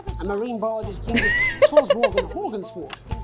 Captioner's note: chuckles